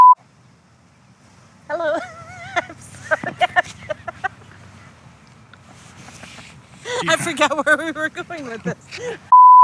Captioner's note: laughing